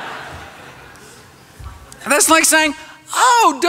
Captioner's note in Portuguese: risos